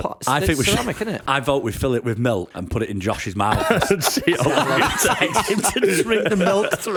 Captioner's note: laughter